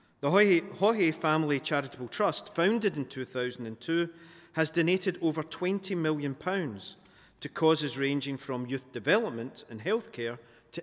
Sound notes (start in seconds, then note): none